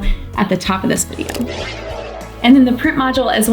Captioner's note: air whooshing